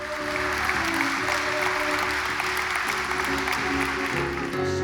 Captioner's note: audience applause; choral music